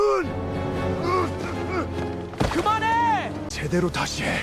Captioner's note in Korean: 신음